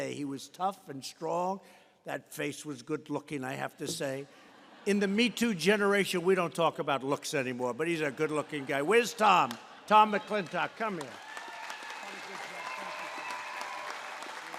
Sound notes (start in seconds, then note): 4.3 laughter; 7.9 laughter